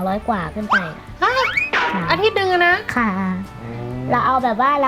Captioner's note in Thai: ร้องตกใจ